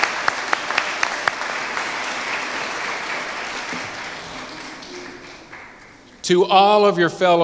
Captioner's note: applause